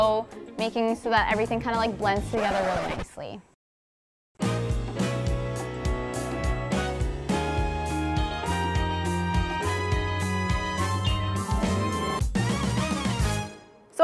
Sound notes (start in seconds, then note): 2.2 record scratch